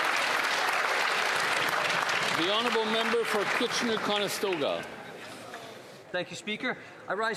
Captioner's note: some Applause